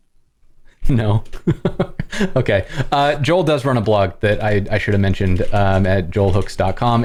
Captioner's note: laughter